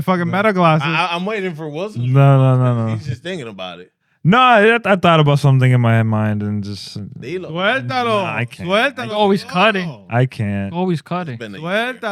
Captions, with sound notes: fucking metal glasses. I'm waiting for Wilson. No, no, no, no. He's just thinking about it. No, I thought about something in my mind and just-- (Non-english Speech) Always cutting. I can't. Always cutting.